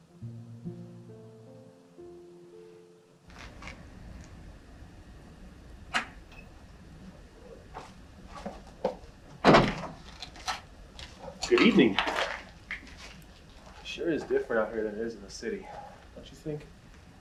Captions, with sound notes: (gentle music) (door opens) - Good evening. Sure is different out here than it is in the city. Don't you think?